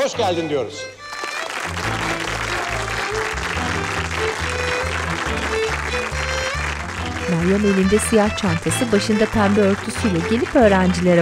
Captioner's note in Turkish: Alkış sesleri